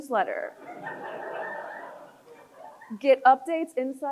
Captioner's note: crowd chuckles